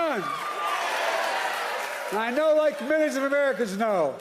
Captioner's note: applause